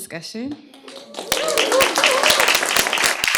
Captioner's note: applause, cheering